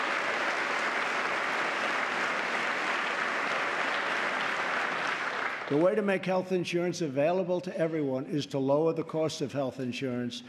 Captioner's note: applause